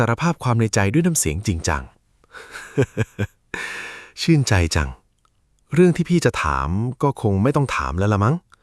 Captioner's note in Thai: เสียงหัวเราะ